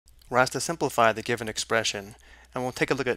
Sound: voiceover

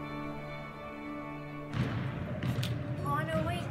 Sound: basketball bouncing

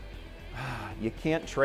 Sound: sighs

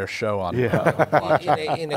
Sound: laughter

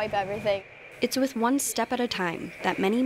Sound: voiceover

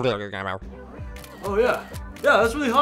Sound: camera shutter snaps

